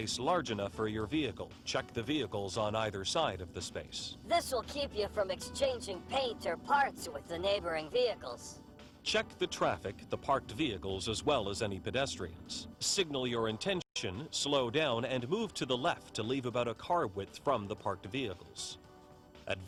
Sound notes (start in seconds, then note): 4.6 voiceover; 9.2 voiceover